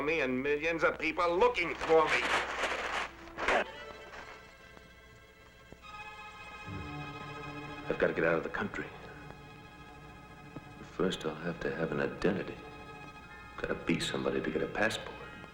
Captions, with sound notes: and millions of people looking for me. (John grunts) (suspenseful music) I've gotta get out of the country. First, I'll have to have an identity. Gotta be somebody to get a passport.